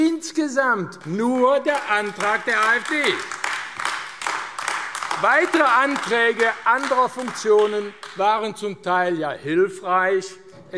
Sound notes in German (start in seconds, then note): 3.4 Beifall AfD